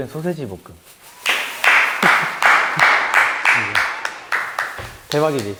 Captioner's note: A round of applause